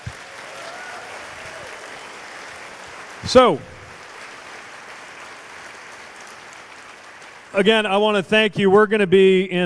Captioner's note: cheers/applause